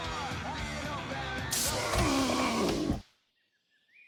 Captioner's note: electric shock